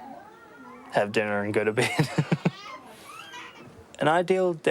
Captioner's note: laughs